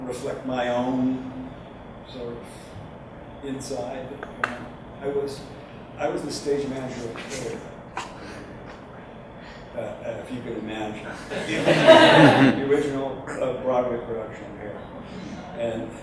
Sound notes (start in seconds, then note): 11.2 audience laughs